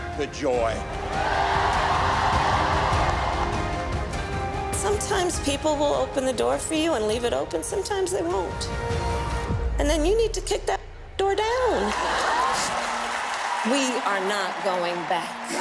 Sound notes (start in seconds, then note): 3.6 cheers and applause